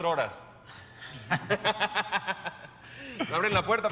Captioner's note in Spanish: Risas